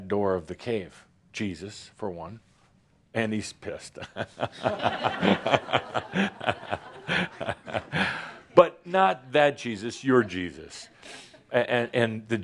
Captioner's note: laughter